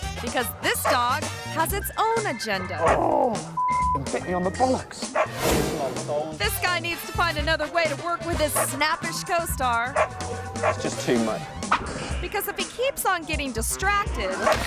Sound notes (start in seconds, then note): 3.0 reporter groaning; 3.5 tone beeps; 9.8 dog barking